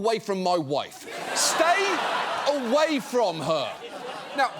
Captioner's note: audience laughs